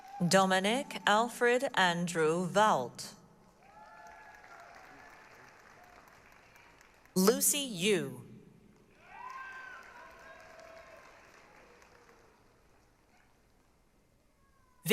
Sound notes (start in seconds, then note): 3.5 applause, cheering; 8.8 applause, cheering